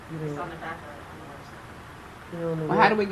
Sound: speaking faintly

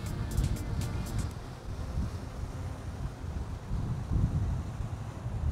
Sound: yacht engine running quietly

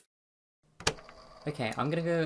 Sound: tape recorder clicks on

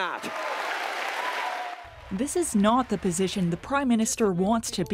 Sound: applause

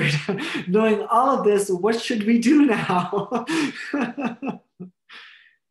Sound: laughs

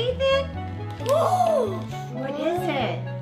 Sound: gasping

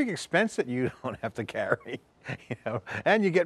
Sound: chuckles

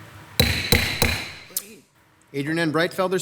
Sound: table bangs

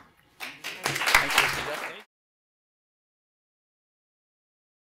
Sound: audience applauds

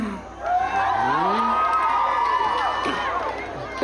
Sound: audience cheering

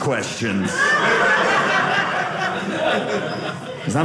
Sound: audience laughing

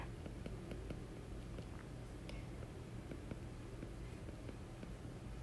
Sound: digital pen tapping noise

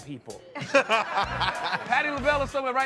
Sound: laughter

